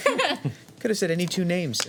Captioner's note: laughing